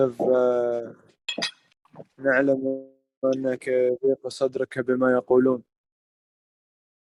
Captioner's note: Arabic